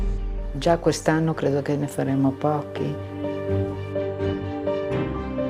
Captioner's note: speaking in foreign language